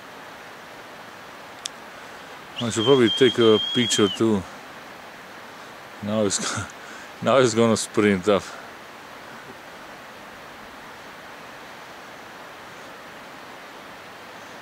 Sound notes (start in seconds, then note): 6.2 my partner is whistling- great!